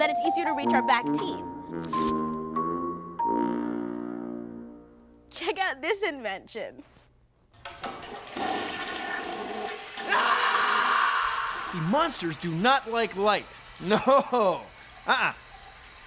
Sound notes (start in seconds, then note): 7.6 toilet flushes